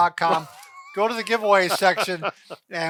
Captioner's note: laughing